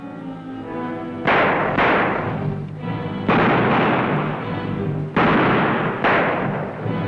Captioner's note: gunshots